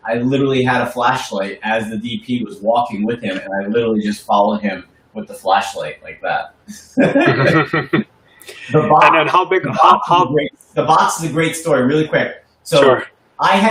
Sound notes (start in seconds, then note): 6.6 chuckles